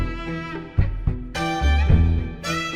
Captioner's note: none